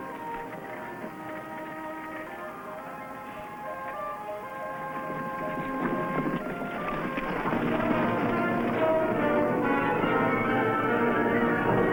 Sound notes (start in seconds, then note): 5.2 horses galloping